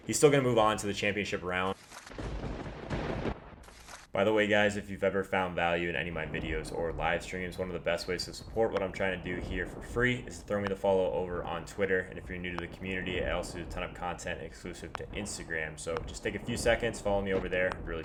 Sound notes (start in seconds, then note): 2.0 paper ripping; 2.1 lightening and thunder; 3.6 paper ripping